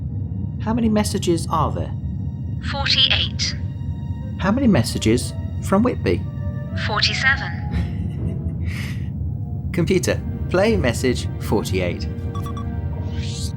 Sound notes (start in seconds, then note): 7.7 knight laughs